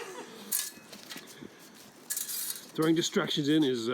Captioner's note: women laughing